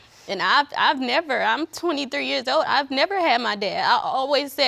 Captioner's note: none